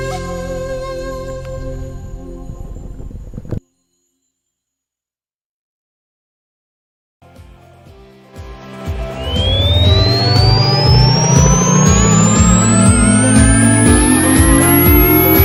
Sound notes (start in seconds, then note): 0.0 flute music; 9.1 rocket engine revving; 12.1 upbeat music